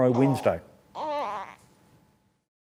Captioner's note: baby sounds